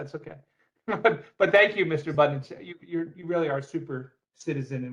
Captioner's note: laughter